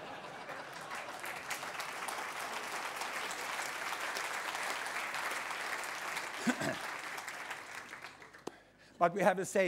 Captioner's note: applause